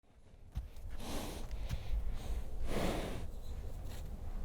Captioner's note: horse breathing